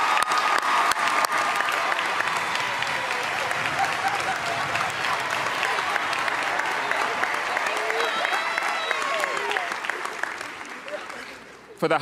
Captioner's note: cheers and applause